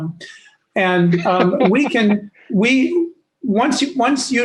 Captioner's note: laughs